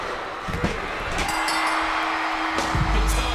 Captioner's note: bell rings; audience cheers